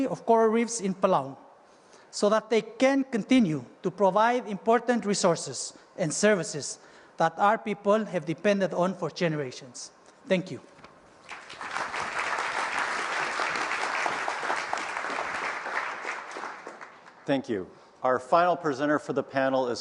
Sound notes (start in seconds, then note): 11.2 applause